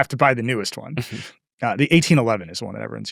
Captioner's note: chuckles